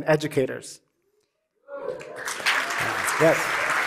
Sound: cheering and applause

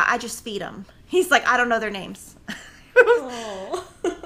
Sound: laughing

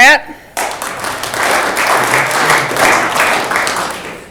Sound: audience clapping

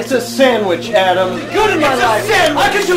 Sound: shouting

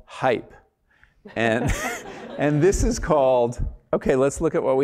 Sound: laugh

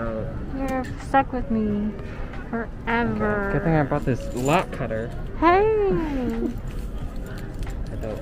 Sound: laughs

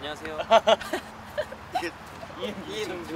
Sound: laughing

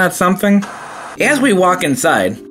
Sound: electrical static

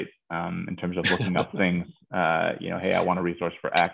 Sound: laughing

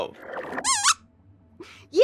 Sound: squeaks squeaks

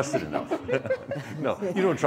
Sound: laughing

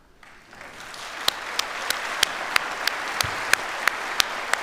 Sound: audience applauds

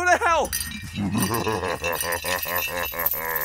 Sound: laughing noise

